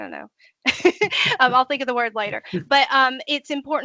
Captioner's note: laughing